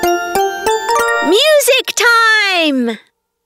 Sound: narrator reading

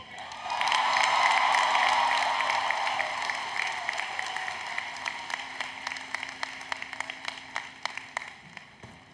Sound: applause, Cheering

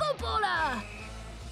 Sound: whistle blows

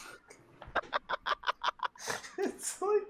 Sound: laughs

